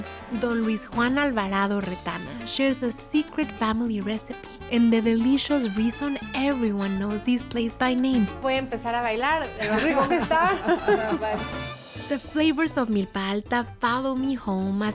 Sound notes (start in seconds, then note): 8.5 speaking Spanish; 9.6 laughter